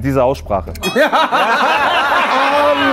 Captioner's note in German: Lachen